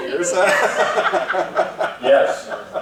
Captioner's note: laughing